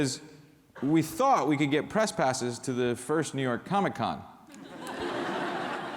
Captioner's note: laughter